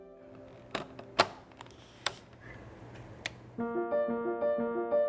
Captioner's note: camera clicking; bright music